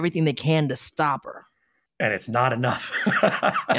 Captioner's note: laughing